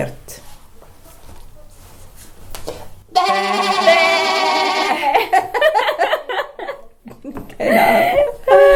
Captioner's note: laughter